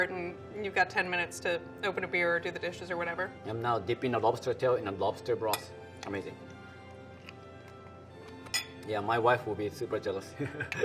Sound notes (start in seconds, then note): 7.3 eating; 10.4 laughing